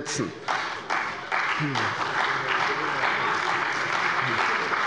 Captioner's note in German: Beifall bei der CDU und dem BÜNDNIS 90/DIE GRÜNEN